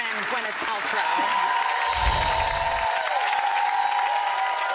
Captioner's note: audience cheering